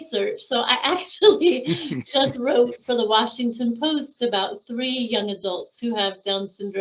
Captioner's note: laughing